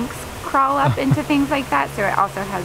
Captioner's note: interviewer laughs